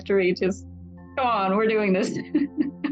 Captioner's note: laughs